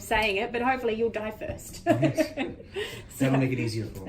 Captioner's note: chuckling